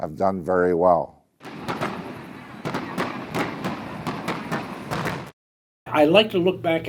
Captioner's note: fireworks